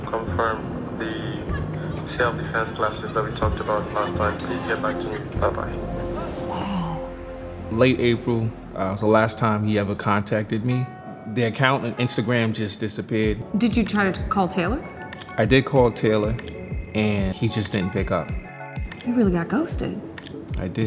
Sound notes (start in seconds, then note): 17.6 line ringing